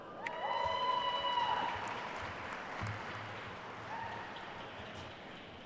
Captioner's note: attendees cheering and applauding